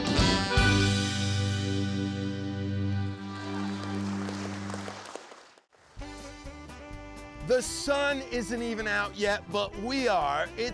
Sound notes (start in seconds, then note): 3.0 audience applauding